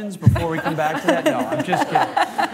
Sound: laughter

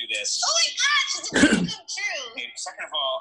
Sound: clears throat

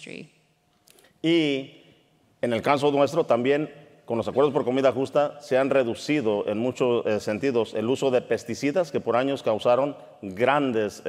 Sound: speaking in Spanish

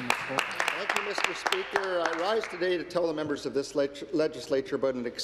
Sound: applause

